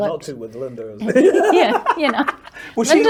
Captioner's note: both laugh